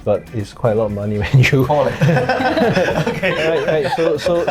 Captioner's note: laughs